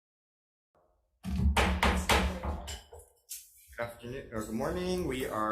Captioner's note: gavel thumping